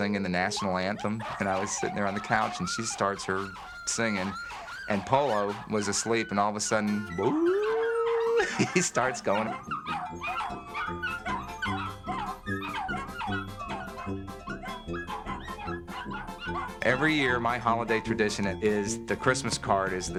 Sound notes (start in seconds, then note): 7.4 howls; 10.2 barking; 12.4 playful music